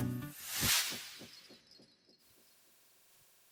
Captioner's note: sound effect